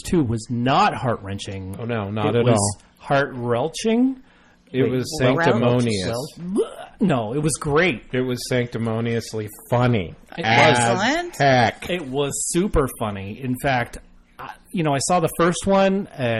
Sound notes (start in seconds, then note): 6.2 sound of throwing up